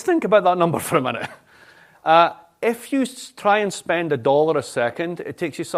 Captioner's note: laughter